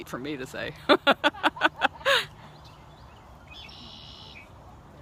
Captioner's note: laughter